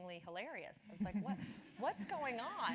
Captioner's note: laugh